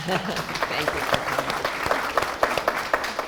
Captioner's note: audience applause